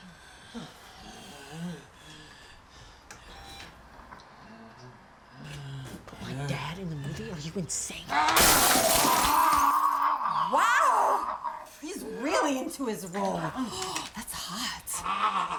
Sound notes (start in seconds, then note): 8.2 glass shattering; 9.2 zombie walter growling